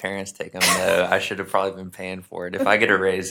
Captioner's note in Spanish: risas